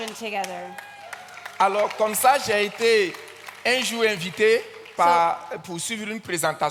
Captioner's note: audience claps and cheers; continues in French